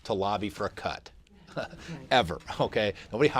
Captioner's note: laughter